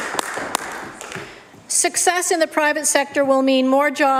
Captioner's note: applause